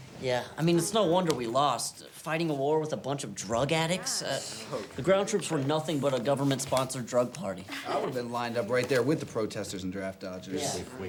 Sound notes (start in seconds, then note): 3.8 students grumble